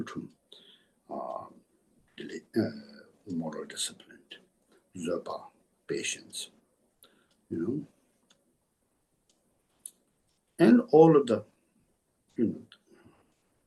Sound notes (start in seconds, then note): 0.0 tibetan; 2.8 tibetan